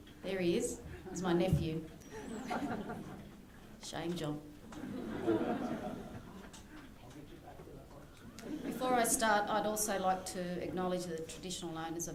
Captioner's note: laughter